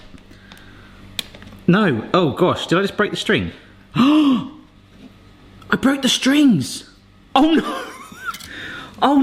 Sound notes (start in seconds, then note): 4.0 gasps; 7.6 laughing